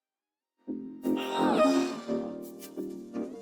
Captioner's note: moans